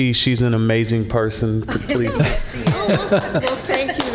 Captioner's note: applause